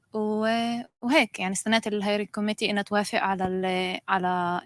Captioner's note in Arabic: لغة أجنبية